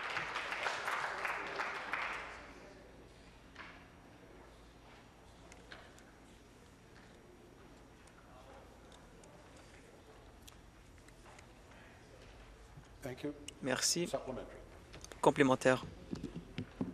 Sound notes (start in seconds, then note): 2.5 applause